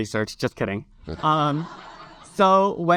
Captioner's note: audience laugh